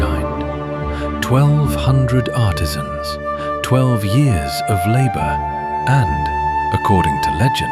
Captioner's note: thoughtful